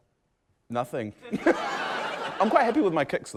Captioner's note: laughter